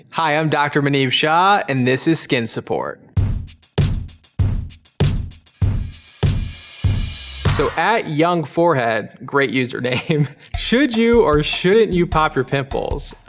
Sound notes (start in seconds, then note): 3.2 upbeat music; 9.9 laughing